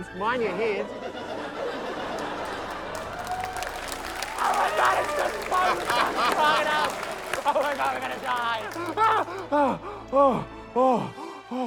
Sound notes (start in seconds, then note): 1.7 laughter, cheering, applause; 4.8 laughter